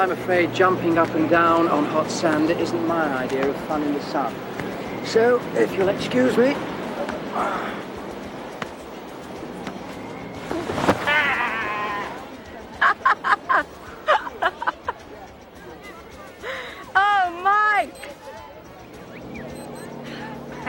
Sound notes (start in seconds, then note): 10.4 thuds; 11.0 laughs; 16.9 watch beeps